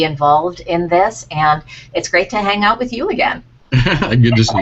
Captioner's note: laughter